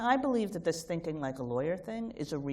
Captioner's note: none